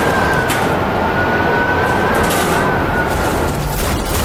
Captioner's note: crashing